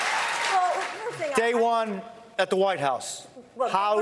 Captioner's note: applause